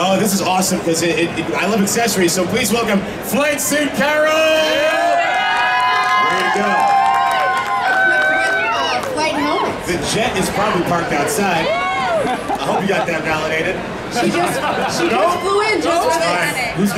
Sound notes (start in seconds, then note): 4.5 audience cheering